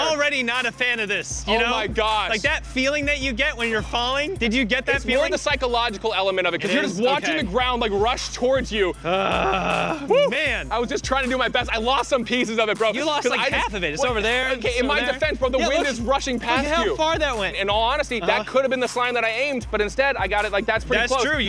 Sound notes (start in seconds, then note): 9.0 groans